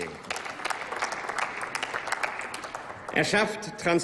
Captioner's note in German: Applaus